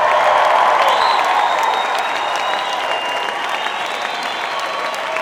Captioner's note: audience cheering